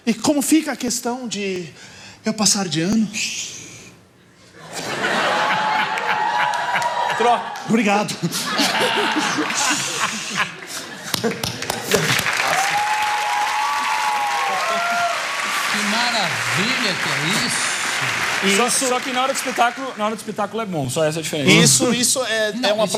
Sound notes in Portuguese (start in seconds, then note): 11.1 aplausos